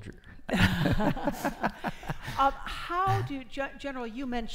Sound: laughing

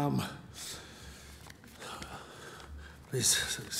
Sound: sighing

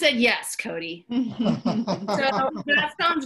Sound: laugh

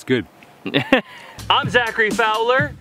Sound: man laughs

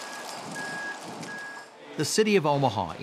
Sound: ambulance beeping

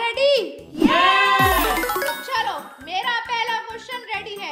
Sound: applause

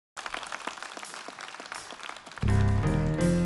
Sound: applause

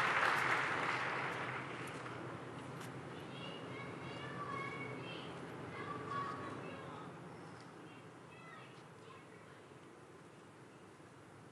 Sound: applause

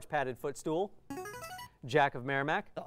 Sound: player buzzer

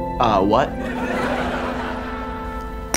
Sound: laughing

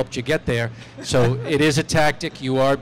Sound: laughter

